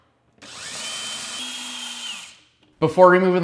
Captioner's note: drill whirring